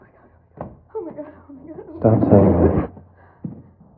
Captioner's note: calmly